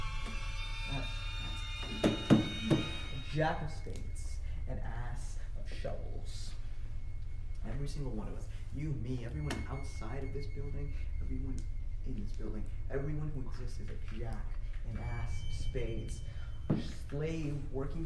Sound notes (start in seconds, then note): 3.2 sound fades away eerily